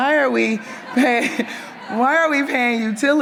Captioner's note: audience members laugh